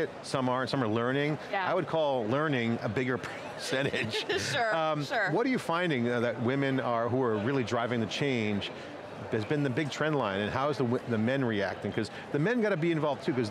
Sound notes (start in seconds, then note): 3.8 laughs